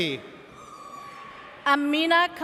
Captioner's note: audience cheers